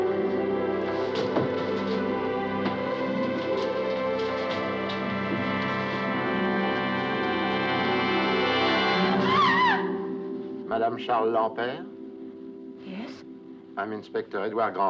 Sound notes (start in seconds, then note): 9.0 yelps